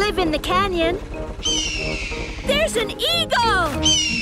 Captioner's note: eagle shriek